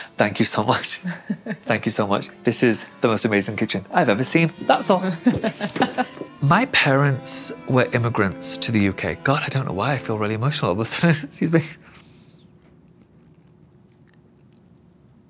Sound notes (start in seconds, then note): 1.0 chuckles; 5.2 laughs